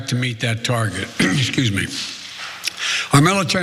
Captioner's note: cough